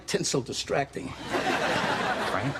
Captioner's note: laughter